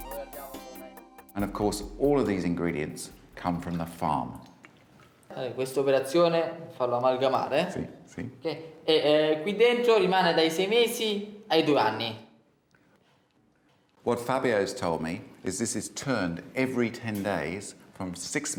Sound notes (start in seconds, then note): 5.6 speaks italian